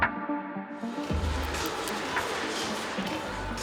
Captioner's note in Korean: 손톱 박수